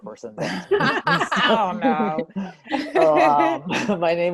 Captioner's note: laughter